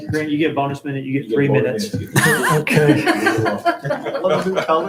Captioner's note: chuckling